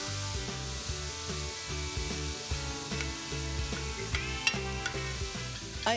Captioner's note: vegetables are sizzling